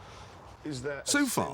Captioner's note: background chatter